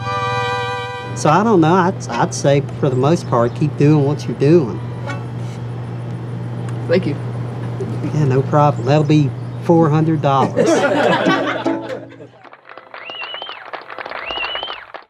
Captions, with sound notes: - I'd say for the most part, keep doing what you're doing. - Thank you. - Yeah, no problem. That'll be $400. (all laughing) (people cheering)